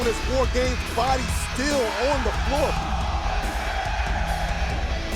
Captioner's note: fans chanting; energetic rock music